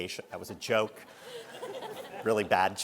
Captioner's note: audience laughing